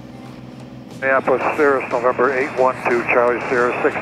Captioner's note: pilot on Radio